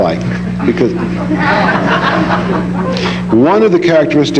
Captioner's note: audience laughing